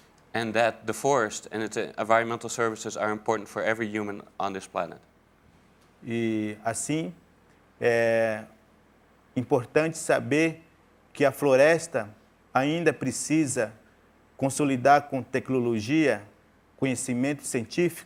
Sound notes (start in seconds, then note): 10.1 speaking in portuguese